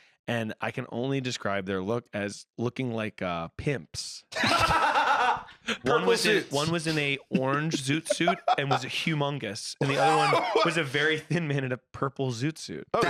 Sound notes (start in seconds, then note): 4.3 laughs